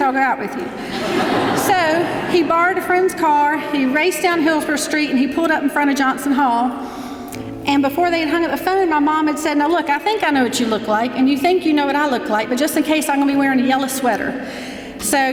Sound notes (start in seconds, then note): 0.7 laughing